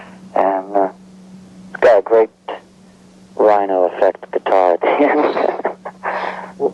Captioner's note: laughing